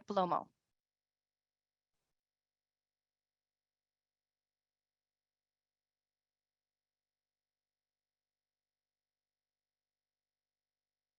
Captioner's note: silencio